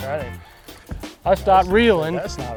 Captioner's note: reel whirring